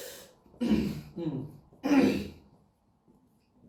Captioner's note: clears throat